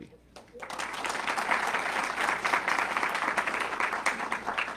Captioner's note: audience clapping